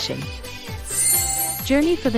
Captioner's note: chime Sound